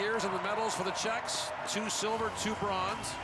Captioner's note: cheering and Applause